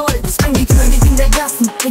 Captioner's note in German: Record scratch